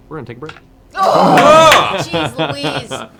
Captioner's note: cheering